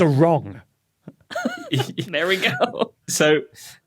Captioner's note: giggles